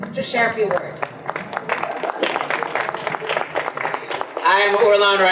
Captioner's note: audience applause